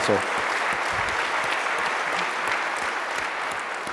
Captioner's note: applause